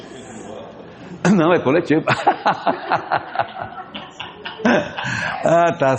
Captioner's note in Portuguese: risadas